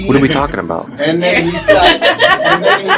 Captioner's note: laughter